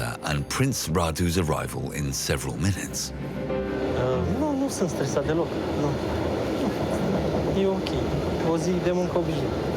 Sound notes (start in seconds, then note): 3.9 speaking foreign language